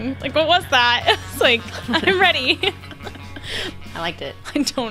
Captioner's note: laughs